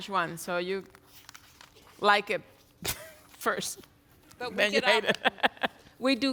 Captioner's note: laughs